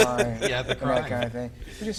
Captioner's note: laughs